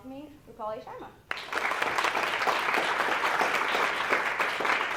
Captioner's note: applause